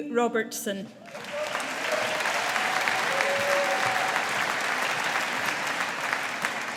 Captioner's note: audience applauding